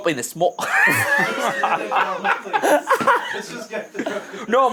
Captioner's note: all laughing